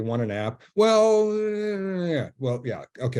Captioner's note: hesitates